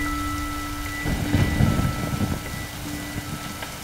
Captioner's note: Thundering